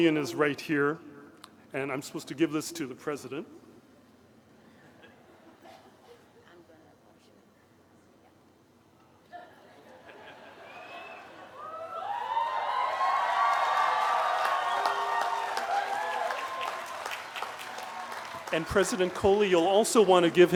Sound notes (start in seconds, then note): 4.7 laughter; 6.0 cheering